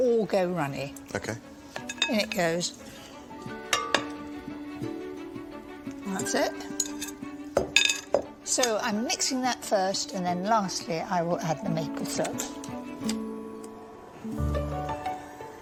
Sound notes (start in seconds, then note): none